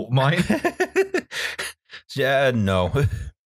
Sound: laughter

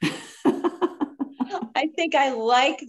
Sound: laughs

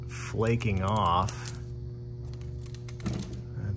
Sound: crispy paint crinkles

